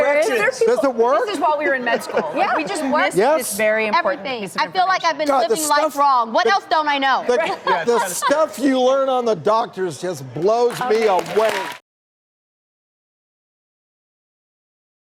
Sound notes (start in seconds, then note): 10.7 audience applauding